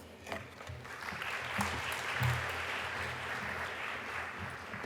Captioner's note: crowd applauding